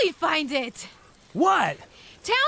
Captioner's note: dog tags jingling; excitedly panting